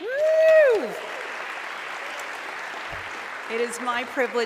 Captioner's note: audience clapping